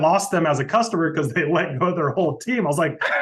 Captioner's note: laughing